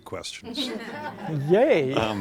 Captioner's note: laughter